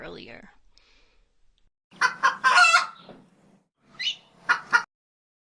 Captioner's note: crowing